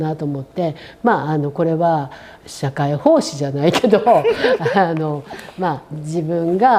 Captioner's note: laughs